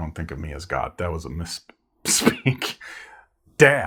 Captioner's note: laughs